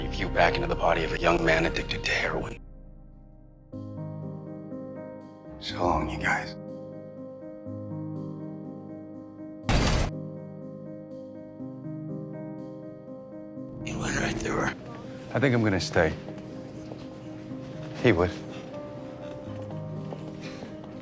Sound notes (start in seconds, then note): 5.7 over comms; 9.7 gunshot; 13.9 voiceover